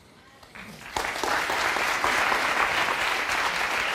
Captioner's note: crowd clapping